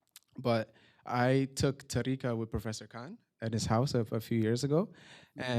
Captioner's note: non-english